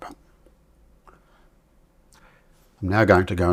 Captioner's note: silence